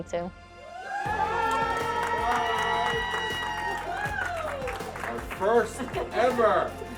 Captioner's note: cheers and applause